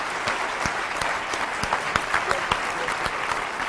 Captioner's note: applause